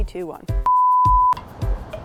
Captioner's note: upbeat music; production tone beeps